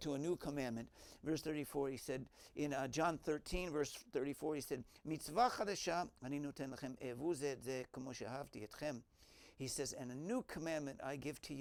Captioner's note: Hebrew